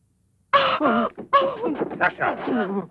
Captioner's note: Jeanette gasps